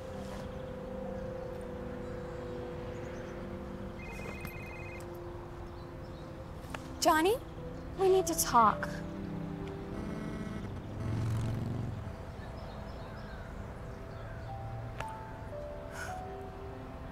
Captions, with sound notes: (phone ringing) - Johnny? We need to talk. (static) (soft music)